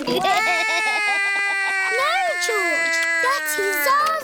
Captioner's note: george laughs; cries